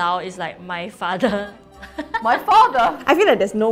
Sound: laughs

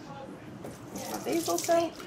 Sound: water running

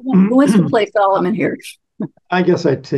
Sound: laughs

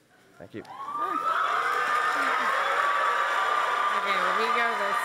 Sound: audience applauses

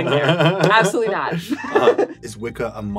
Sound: laughs

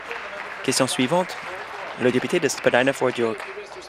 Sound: applause

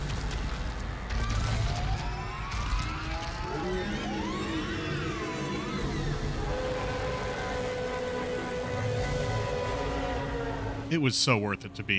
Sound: ungodly shrieking and deafening primal roar

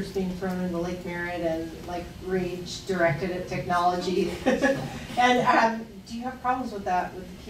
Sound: laughs

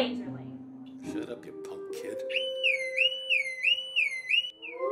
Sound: loud siren

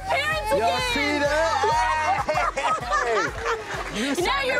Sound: laughs

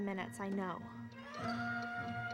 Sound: ticking

